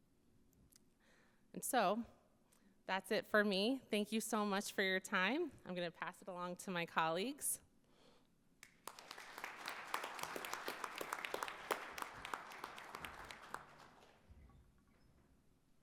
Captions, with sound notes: And so that's it for me. Thank you so much for your time. I'm gonna pass it along to my colleagues. (attendees applauding)